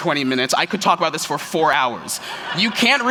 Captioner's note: laughter